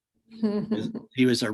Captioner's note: chuckles